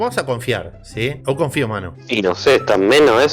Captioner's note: in Brazilian